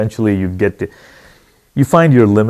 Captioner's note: deep Breath